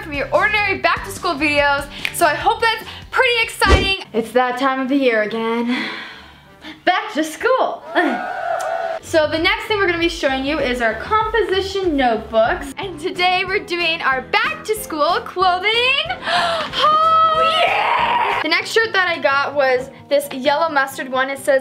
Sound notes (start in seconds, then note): 7.8 fake audience cheering